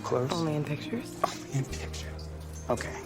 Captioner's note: scoffs